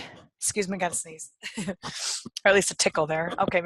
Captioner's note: chuckles